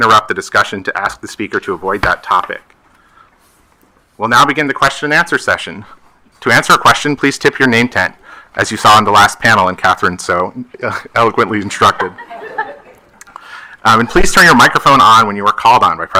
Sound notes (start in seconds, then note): 13.2 attendees laughing